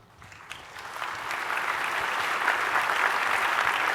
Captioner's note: applause